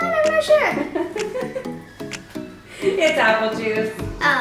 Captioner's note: laughing